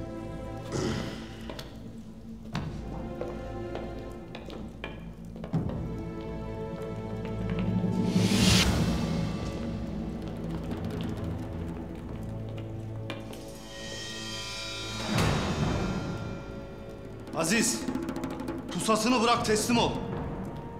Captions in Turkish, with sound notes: (Nefes sesi) (Müzik - Gerilim) Aziz! Pusatını bırak, teslim ol!